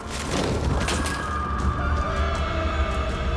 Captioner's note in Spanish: Estruendo